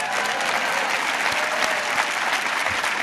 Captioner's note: applause